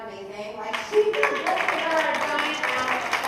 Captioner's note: applause